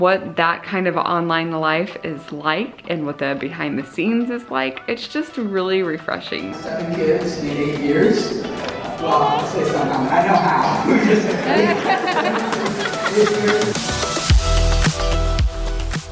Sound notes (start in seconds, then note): 10.2 laughter; 14.4 upbeat music